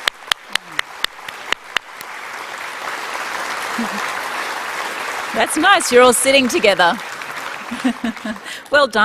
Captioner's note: applause